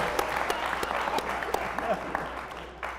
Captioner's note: applause; laughter